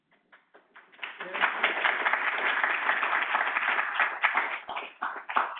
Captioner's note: audience applauding